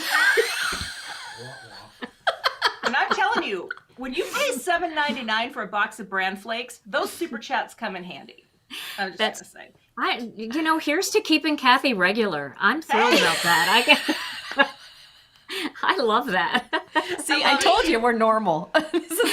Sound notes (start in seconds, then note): 0.0 chuckles; 14.6 all chuckles